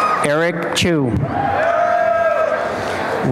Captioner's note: applause and cheering